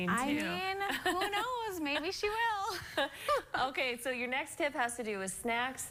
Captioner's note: laughter